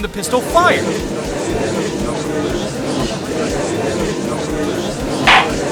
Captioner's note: gallery chattering